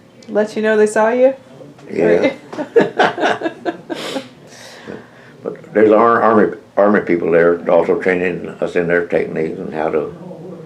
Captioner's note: laughter